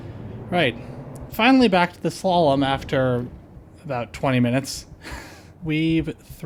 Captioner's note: laughter